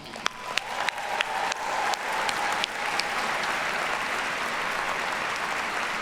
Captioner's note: students applauding; students cheering